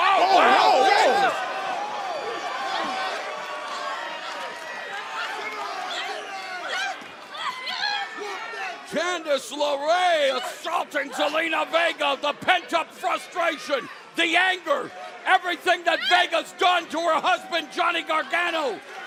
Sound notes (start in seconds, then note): 9.3 crowd chatter